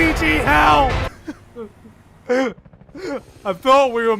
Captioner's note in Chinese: 啜泣